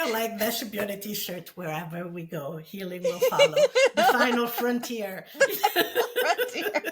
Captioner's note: both laugh